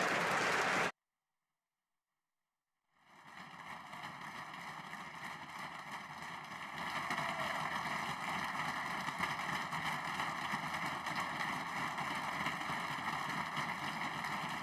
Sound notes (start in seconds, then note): 3.0 applause